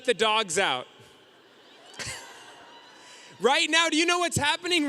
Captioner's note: audience cheering